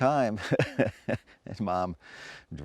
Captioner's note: chuckling